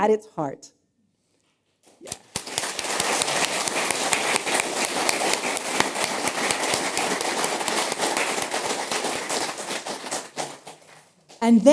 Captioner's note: applause